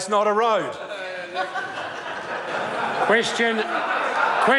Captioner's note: members laugh